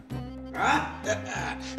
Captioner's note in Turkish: Gülüyor